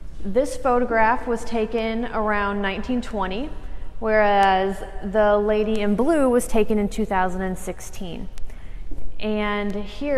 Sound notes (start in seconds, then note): none